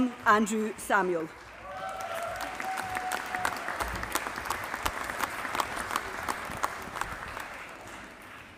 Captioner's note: applause